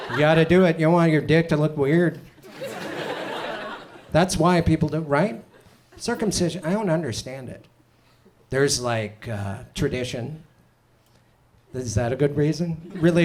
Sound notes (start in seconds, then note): 2.4 audience chuckles